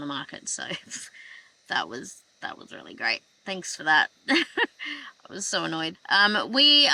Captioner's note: scoffs